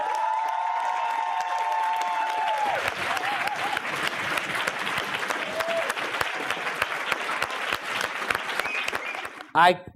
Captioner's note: applause